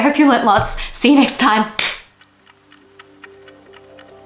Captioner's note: clap